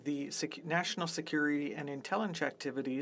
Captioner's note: speaking French